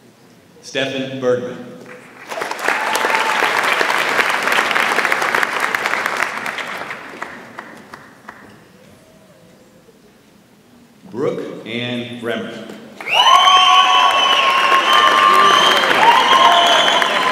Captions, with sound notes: Stefan Burton. (audience applauds) Brooke Ann Bremt. (audience applauds and cheers)